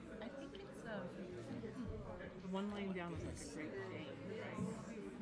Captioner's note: people chattering